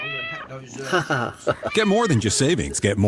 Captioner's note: tense chuckle